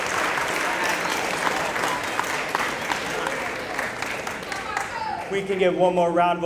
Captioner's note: applause